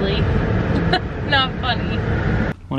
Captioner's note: laughs